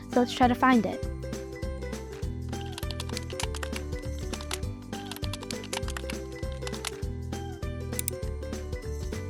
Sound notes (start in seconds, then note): 2.7 keyboard clicking; 2.9 upbeat music